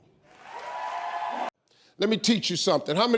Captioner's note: audience cheers